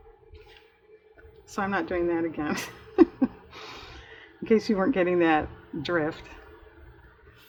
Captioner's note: laughs